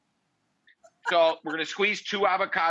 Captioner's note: laughs